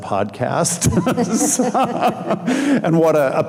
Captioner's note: laughing